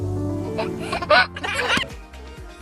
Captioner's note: baby chuckles; delightful music